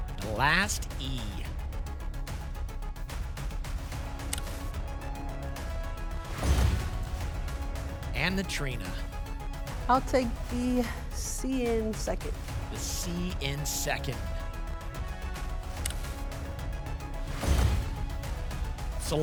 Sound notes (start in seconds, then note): 6.3 thump; 6.3 whoosh; 17.2 thump; 17.2 whoosh